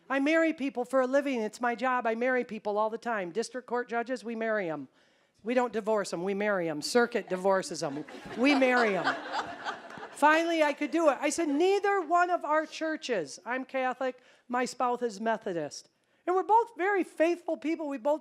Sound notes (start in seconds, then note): 7.7 audience laughing